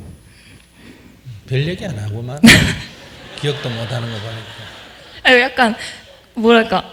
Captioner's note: audience Laughter